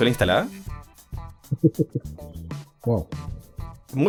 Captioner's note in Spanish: risas